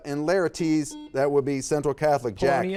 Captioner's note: buzzer beeping